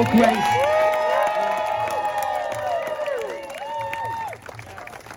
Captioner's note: very loud cheers